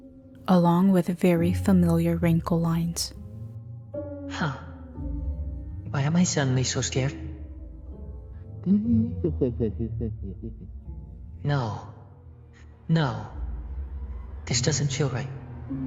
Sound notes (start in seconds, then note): 9.1 muffled laughter